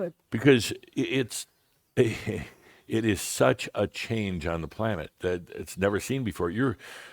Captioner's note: Adamus chuckles